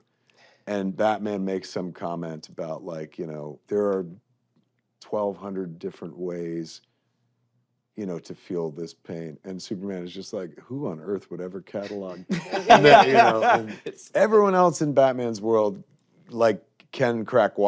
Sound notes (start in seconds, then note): 11.8 laughter